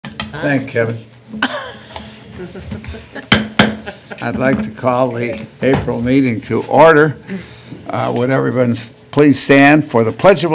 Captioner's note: laughter